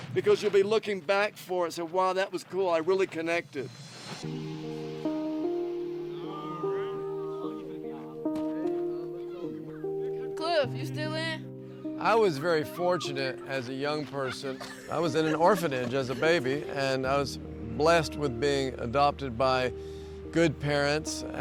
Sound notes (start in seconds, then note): 4.3 peaceful music; 6.7 boys chattering